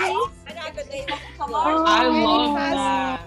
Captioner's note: excited chattering